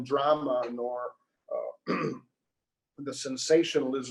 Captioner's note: clears throat